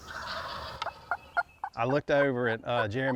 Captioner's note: turkeys gobbling